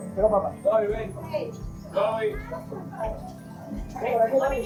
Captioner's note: speaking foreign language